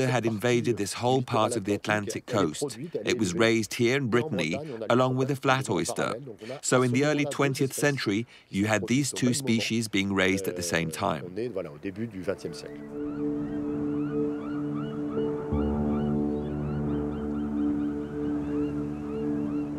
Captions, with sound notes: had invaded this whole part of the Atlantic coast. It was raised here in Brittany, along with the flat oyster, so in the early 20th century, you had these two species being raised at the same time. (soft music) (gulls squawking)